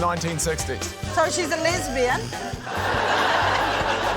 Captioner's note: laughter